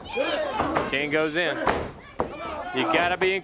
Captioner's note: crowd chatter